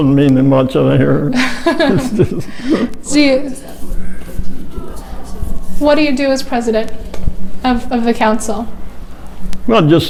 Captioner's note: laughs